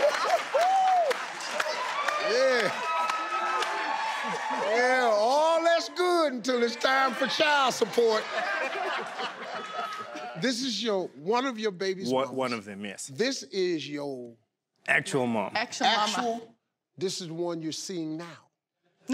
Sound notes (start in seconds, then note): 3.4 crowd cheers; 8.6 crowd laughs